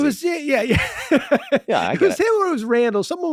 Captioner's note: laughing